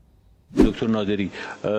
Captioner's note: laughter